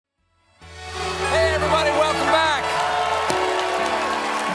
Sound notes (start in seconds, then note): 0.6 band playing; 1.2 cheers and applause